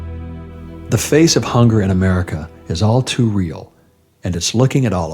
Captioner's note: voice-over